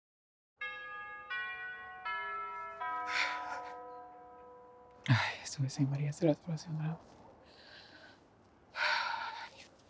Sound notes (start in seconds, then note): 0.6 doorbell rings; 3.6 mutters under breath